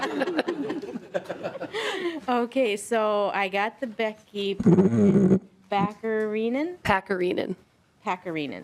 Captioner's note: laughing